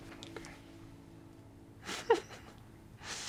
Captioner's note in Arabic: ضحك